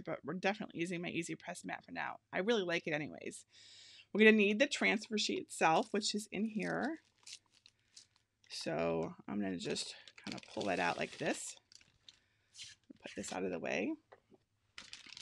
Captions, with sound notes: but we're definitely using my EasyPress Mat for now. I really like it anyways. We're gonna need the transfer sheet itself, which is in here. (packaging rustles) So I'm gonna just kinda pull it out like this. We'll put this out of the way.